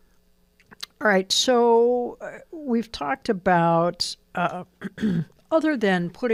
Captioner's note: clears throat